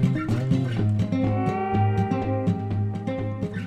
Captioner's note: none